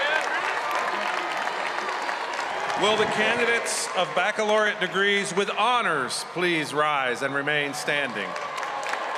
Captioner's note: cheers and applause